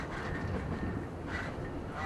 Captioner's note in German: Fernes Quietschen